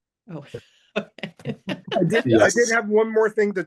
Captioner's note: participants laughing